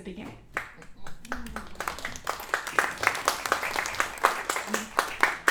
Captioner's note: applause